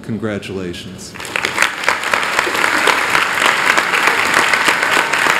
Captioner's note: applause